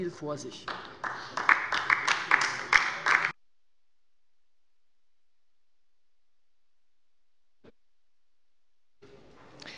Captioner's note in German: Beifall bei der LINKEN